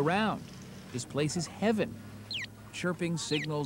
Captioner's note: crosswalk chirps